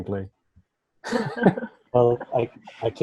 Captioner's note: all laughing